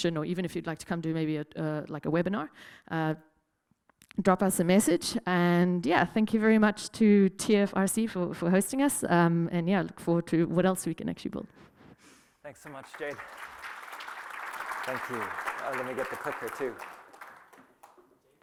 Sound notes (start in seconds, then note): 12.5 applause